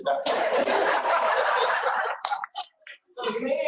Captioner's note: laughter